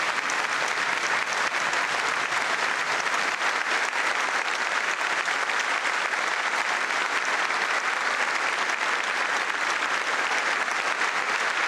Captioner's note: applause